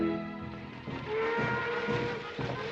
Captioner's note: marching band playing; train whistle blowing